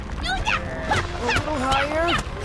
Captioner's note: grunting and punching